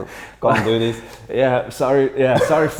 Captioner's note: chuckles